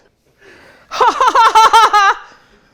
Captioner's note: laughs sarcastically